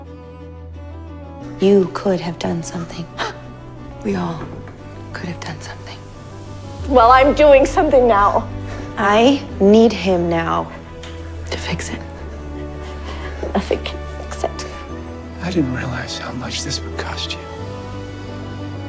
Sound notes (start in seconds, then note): 3.2 Eleanor scoffs